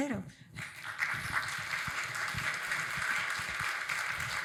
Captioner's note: audience applauding